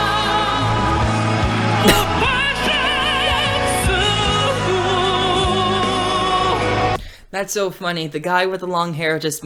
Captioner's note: laughs